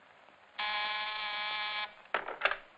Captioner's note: buzzer buzzing